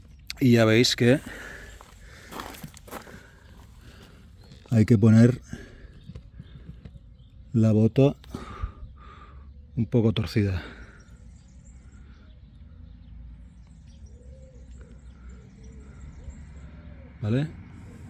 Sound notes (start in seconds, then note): 8.3 gasp; 8.3 sigh